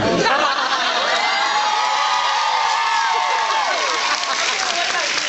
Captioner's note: cheers